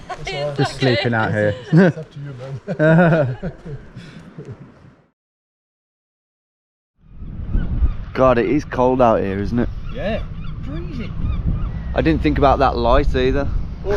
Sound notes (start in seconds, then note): 2.6 all chuckle